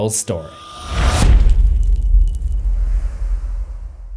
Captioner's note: impact